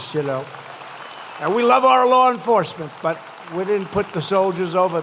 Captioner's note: applause